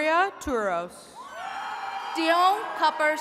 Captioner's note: attendees cheering